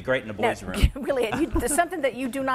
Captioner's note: laughs